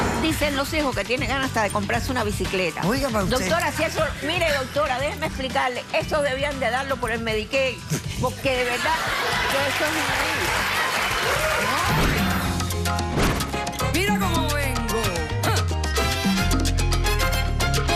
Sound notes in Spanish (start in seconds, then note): 8.6 risas; 8.8 aplausos